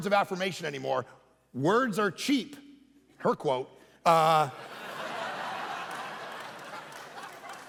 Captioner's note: congregation laughing